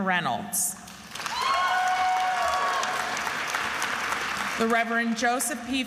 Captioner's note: attendees applauding and cheering